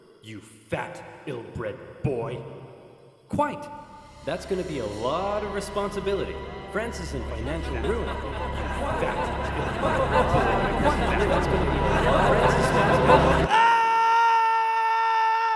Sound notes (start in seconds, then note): 4.1 random voices moving around